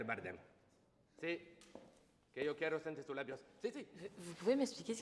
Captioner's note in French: charabia espagnol